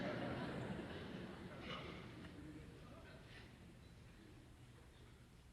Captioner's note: laughter